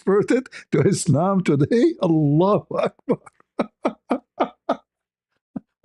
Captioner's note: ketawa